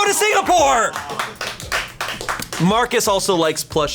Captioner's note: colleagues applauding